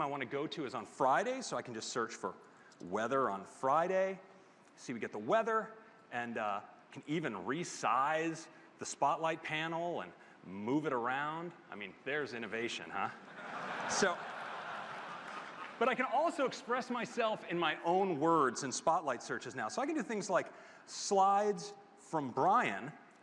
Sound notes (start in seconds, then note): 16.7 laughter